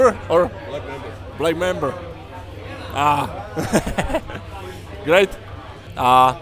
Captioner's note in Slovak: smiech